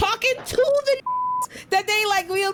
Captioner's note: beep